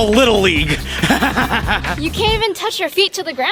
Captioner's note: manic laughing